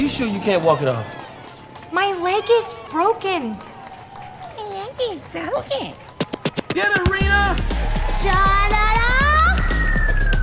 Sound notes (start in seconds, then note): 4.8 childish imitation